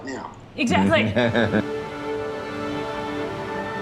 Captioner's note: laughs